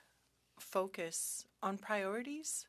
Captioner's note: speaking French